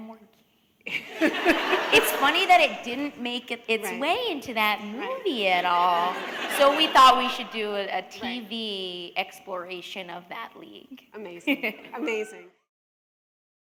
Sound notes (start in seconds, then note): 5.8 laughter; 12.0 chuckle